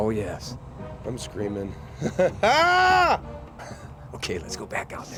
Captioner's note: shouts; chuckles